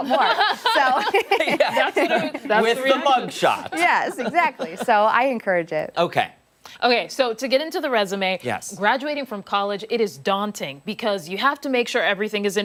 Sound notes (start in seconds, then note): 5.3 laughter